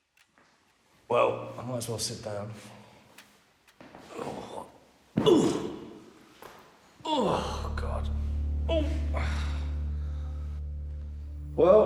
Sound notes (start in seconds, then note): 4.4 Danny grunts; 7.1 light dramatic music